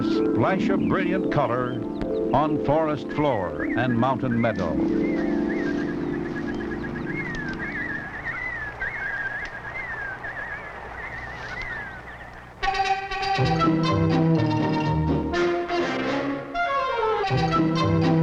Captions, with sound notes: There a splash of brilliant color on forest floor and mountain meadow. (chirping) (lively instrumental music)